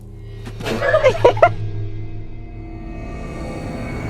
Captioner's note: laughter